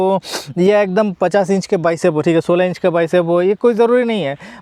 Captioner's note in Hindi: नाक से की जाने वाली आवाज़